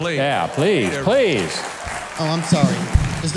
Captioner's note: audience applauds